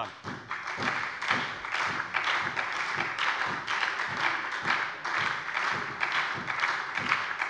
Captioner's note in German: Beifall bei der FDP und der SPD